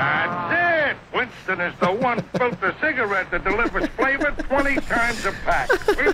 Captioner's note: laughs